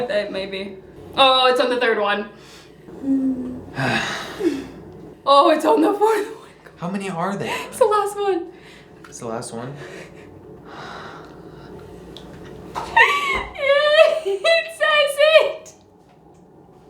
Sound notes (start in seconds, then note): 2.9 sighing